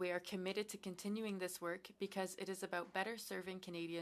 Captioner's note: speaking french